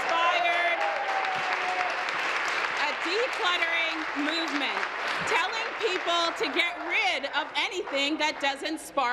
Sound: applause

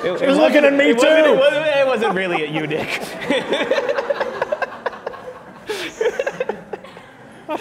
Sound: laughs

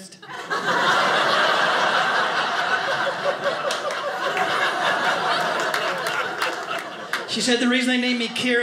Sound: audience laughing

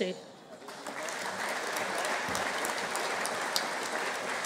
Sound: audience applauding

